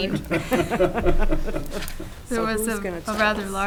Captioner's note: board members laughing